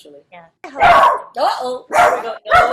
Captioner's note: dog barks